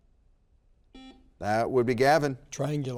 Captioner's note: buzzer beeps